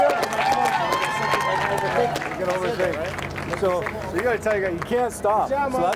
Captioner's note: crowd cheering